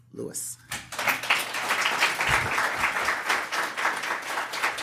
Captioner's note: audience clapping